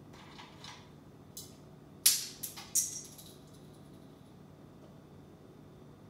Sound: small object clatters

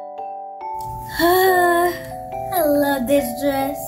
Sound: sighing

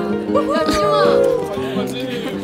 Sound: cheers from colleagues

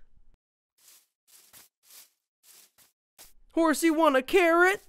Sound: grass rustling

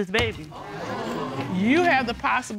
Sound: audience exclaiming

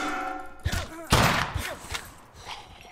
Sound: gunshot

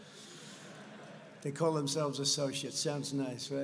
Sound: laughter

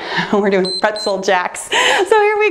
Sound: timer beeps

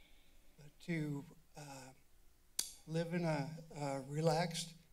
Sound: clicks tongue

